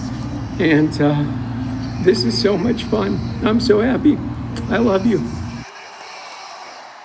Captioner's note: crying